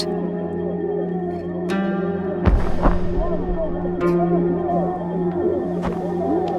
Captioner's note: crowd shouting; punches thudding